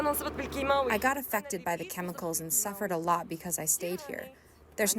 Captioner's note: through translator